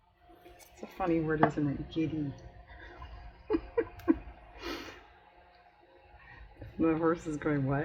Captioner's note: laughs